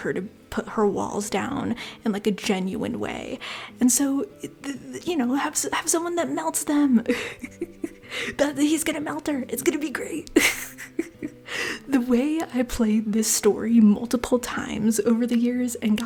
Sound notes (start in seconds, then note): 7.3 laughter